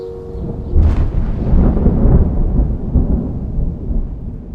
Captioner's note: rolling thunder